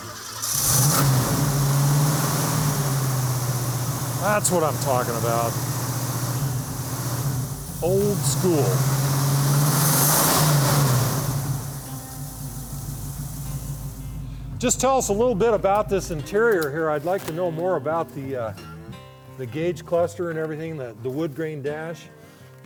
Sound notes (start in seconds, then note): 0.2 car engine roaring; 9.1 car engine roaring